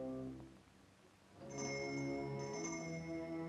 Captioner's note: bell rings